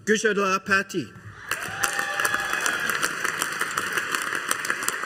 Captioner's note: audience applauding